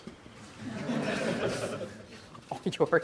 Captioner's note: audience laughter